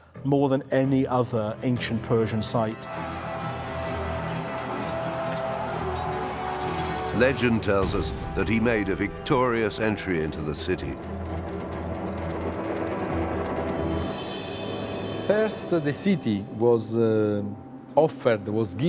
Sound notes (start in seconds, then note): 2.8 soldiers shout; 3.2 steel clanks